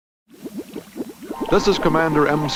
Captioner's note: bubbles